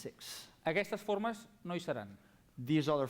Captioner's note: non-english speech